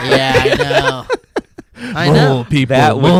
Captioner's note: laughs